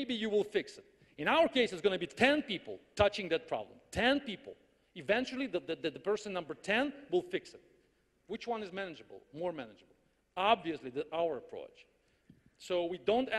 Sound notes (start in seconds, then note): none